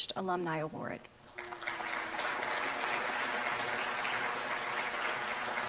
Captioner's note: applause